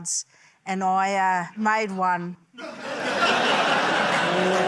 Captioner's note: laughter